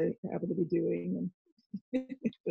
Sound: murmurs

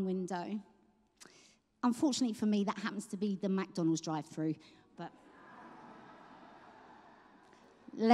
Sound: laughter

